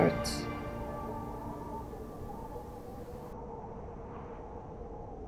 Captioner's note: wind howling